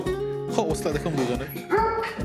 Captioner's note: dogs